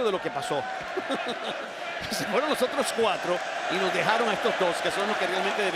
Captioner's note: laugh